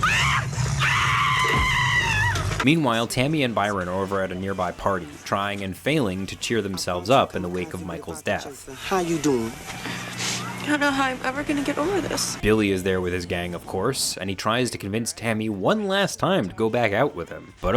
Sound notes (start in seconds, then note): 0.0 bettor screaming; 0.1 dinosaur snarling; 9.8 sniffles